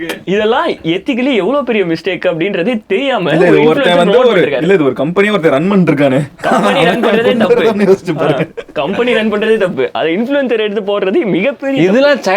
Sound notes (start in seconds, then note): 6.1 group laughs